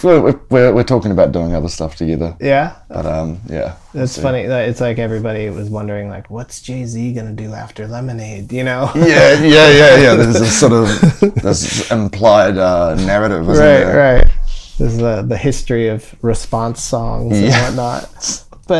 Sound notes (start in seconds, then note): 8.8 laughter